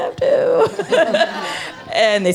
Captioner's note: chuckles happily